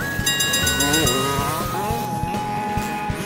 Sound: dinging; engines revving

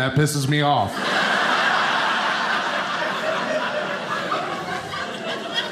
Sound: audience laughing

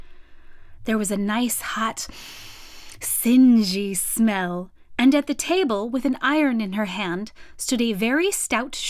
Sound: inhale

